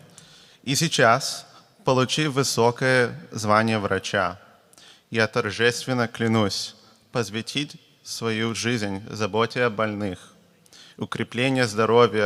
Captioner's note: speaking russian